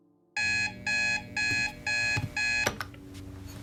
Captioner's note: alarm beeping